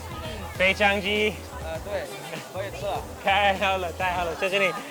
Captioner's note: man speaks in a foreign language; speaks in a foreign language; man speaks in a foreign language; speaks in a foreign language